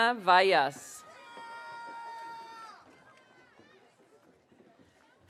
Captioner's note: audience cheering